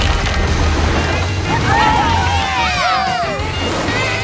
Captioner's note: cheering